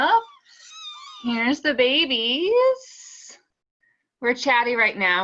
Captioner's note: kittens mewing